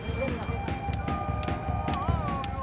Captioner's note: bell rings; chanting